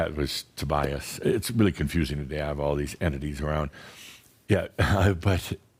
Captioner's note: Adamus chuckles